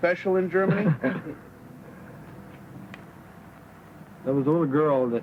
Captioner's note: laughing